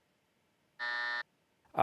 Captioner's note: buzzer